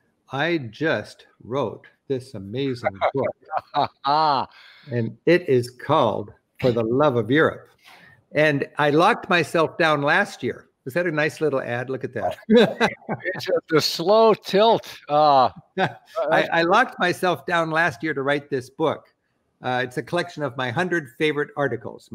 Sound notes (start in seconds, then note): 3.4 laughter; 12.1 laughs